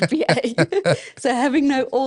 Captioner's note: laughing